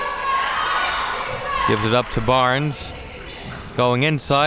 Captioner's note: spectators shouting